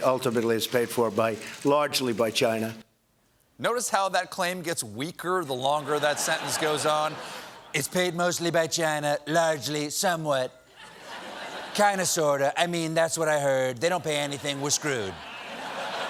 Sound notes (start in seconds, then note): 3.5 laughter; 14.3 laughter